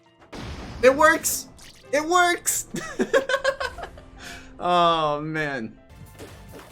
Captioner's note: laughing